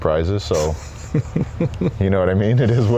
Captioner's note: laughs